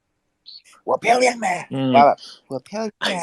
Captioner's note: hoarse voice